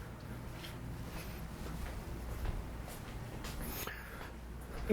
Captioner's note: breathes deeply; footsteps trampling; breathes deeply